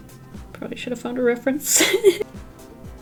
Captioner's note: laughs